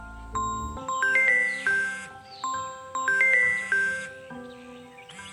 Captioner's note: phone ringing